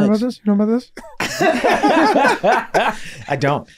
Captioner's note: group laughing